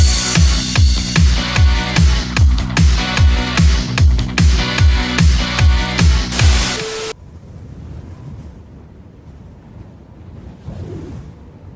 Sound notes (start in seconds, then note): 0.0 upbeat music; 6.3 static hissing; 7.1 wind whistling